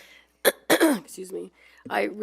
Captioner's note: clears throat